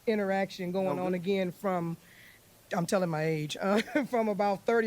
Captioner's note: laughs